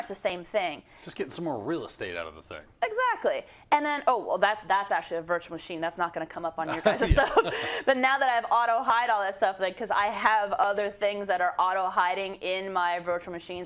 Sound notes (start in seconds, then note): 6.7 laugh